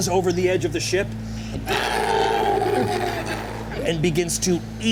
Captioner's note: beast roaring